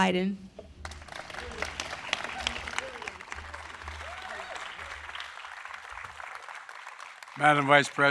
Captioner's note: applause